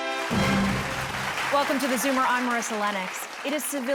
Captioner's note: bright upbeat music; audience clapping